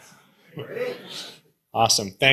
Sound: audience speaking indistinctly

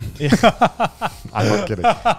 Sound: all laughing

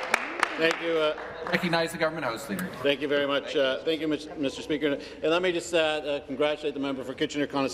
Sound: some applause

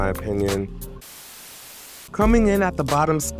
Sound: static buzzing

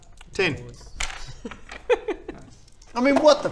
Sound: fiendish giggle

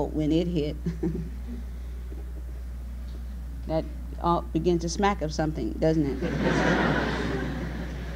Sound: she laughs; audience laughs

